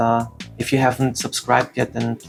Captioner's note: none